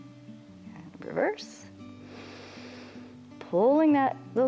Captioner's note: inhales